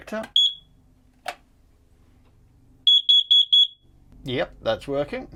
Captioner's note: loud Beeping Sound